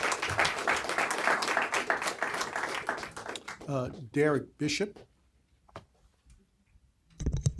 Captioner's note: applause